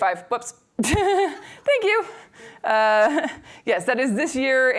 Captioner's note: laughs